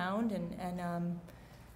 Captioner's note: none